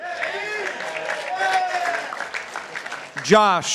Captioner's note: participants applauding